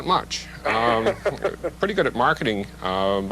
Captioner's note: interviewer laughs